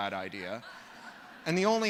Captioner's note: laughter